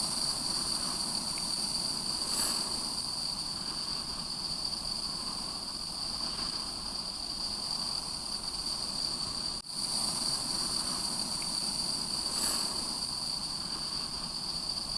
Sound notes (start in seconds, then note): 3.0 insects chirping